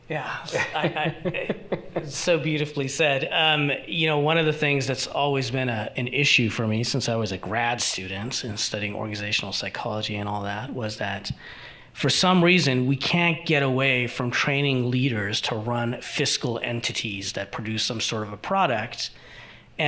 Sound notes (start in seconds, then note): 0.3 laughing